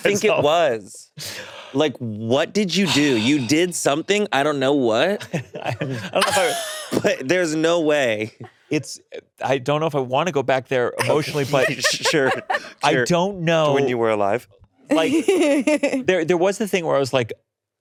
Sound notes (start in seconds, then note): 6.1 laughing